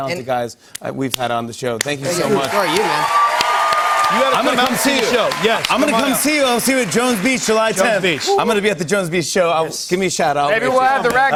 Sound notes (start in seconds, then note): 2.1 cheers and applause